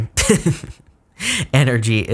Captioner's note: laughing